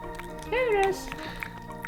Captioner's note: Spudgy voice